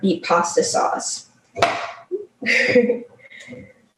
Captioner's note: knife thudding; laughs